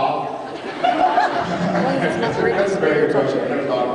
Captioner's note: laughs